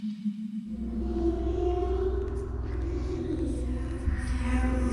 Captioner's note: ghastly murmurs